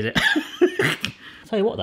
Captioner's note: laughs